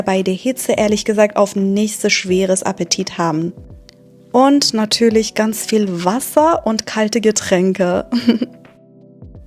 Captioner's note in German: gelächter